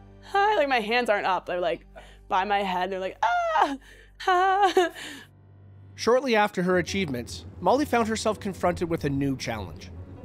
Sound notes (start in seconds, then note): 4.2 giggles